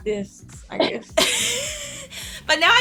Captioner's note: laughs